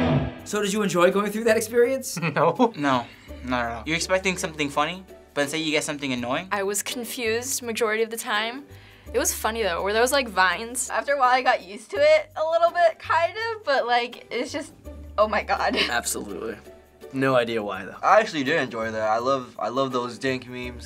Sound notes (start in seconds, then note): 2.2 chuckling